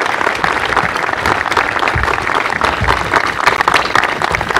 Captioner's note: applause